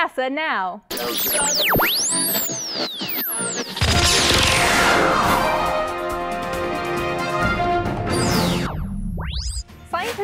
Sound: sound Effects

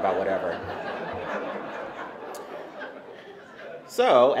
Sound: laughter

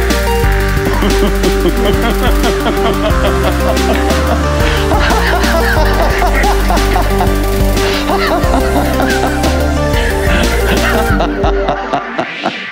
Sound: maniacal laughter

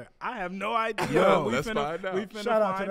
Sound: laughs

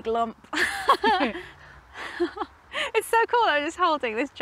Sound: both laugh

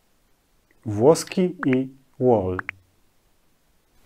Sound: Polish

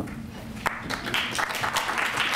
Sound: applause

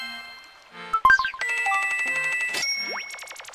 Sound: money sound

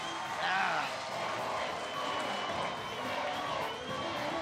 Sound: chanting

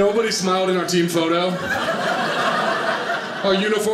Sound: audience laughing

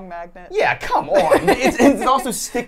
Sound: laughs

